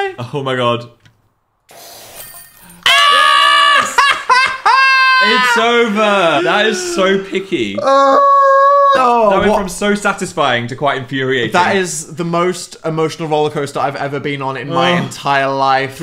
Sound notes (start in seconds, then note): 1.7 liquid hissing; 1.7 notification dings; 7.7 moaning